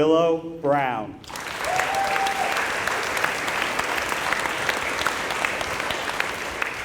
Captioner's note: applause